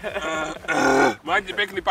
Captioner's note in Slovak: zvuky čistenia ústnej dutiny